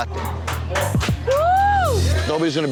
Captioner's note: staff cheering